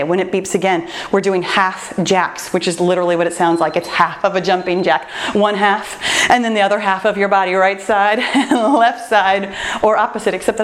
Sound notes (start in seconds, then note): 3.2 timer beeps; 8.1 laughs